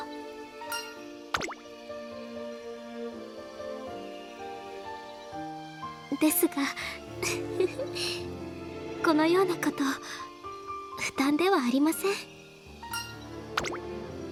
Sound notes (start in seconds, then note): 7.2 laughing